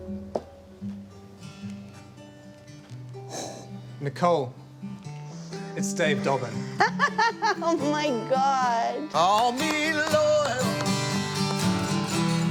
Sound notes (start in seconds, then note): 0.7 acoustic guitar playing; 6.6 laughs; 12.2 claps